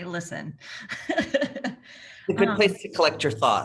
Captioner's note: laughing